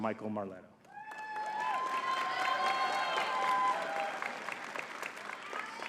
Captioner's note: audience cheering and clapping